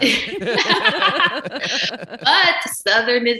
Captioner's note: laughing